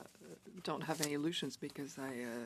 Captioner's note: speaking French